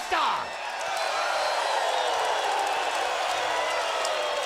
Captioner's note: crowd cheers